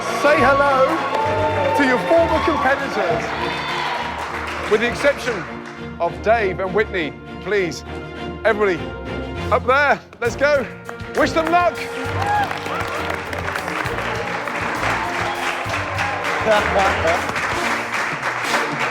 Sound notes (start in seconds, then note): 11.2 cheers and applause; 15.9 laughing